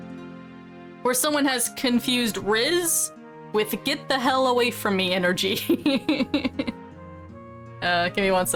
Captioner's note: uncomfortable laughter